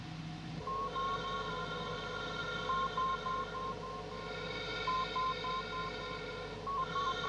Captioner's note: monitores apitando